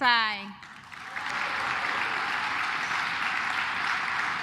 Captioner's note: claps